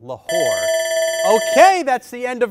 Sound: bell rings

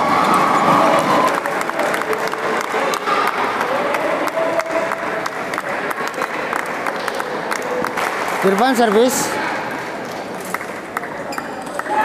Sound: applause

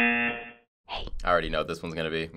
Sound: girl whispering

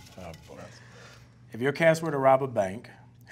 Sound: none

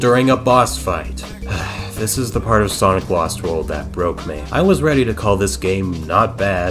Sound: sigh

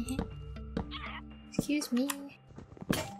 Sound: Daybreak squawks

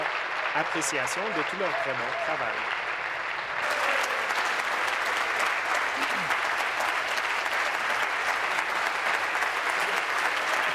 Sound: applause

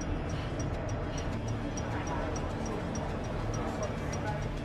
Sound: crowd chatter

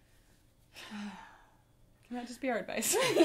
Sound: both sighing

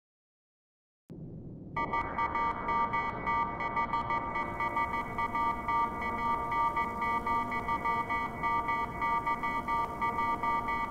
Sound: sound of evil code

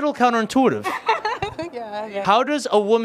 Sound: laughs

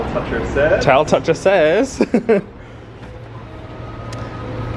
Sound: laughs

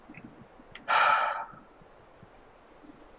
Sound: sighs

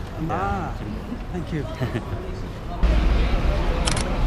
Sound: laughing

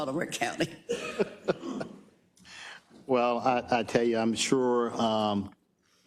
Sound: laugh

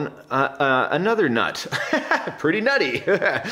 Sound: laughs

